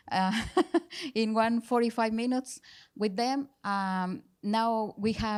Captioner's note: laughing